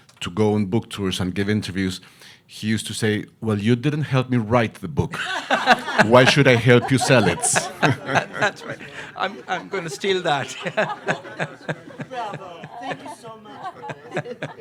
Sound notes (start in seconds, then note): 5.3 panelists laughing; 7.5 audience laughing; 10.7 audience laughing; 10.7 panelists laughing